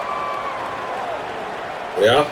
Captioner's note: crowd Noises